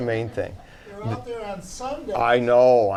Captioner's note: voiceover